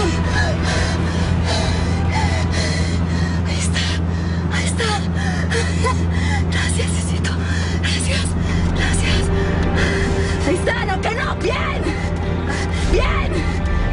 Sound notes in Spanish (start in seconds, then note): 4.2 Ríe